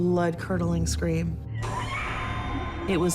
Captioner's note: distant scream